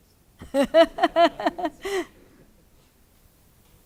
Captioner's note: laughs